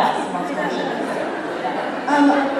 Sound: laughter

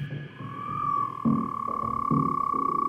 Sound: frog croaks

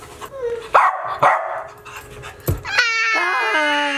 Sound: dog barking; screeching

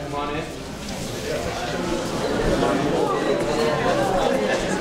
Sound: excited chatter

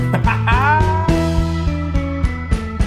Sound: laughs; bright exciting music

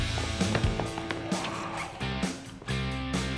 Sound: zombie snarls

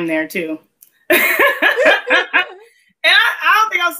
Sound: laughs

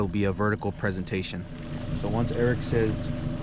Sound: boat engine idling

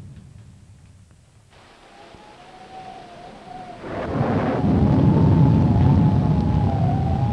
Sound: thunder rumbling; wind howling

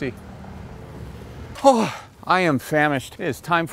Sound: sighs

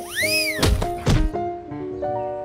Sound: thud

